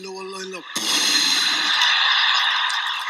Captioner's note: applause followed by laughter